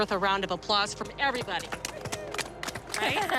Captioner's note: applause